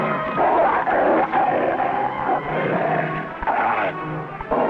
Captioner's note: Rebel growling